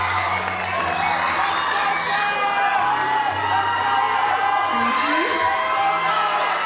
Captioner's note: audience cheering continues